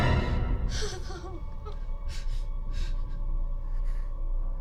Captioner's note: sobbing